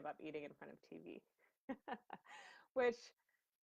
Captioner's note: laughs